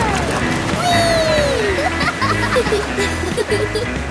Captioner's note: laughing